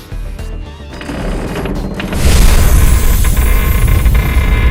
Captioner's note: creak…